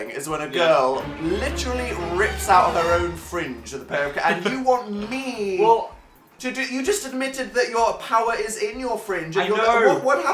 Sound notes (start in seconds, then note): 3.9 laughs